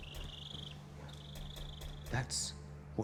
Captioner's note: dinosaurs clicking